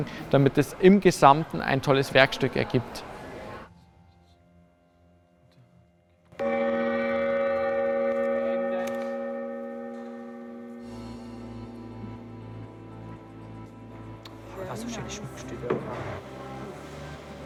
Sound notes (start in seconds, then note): 6.6 gong; 11.0 impulsive music